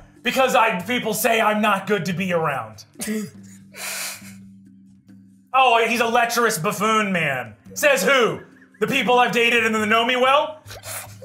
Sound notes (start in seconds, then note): 3.1 chuckles